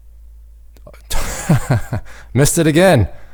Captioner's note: laughs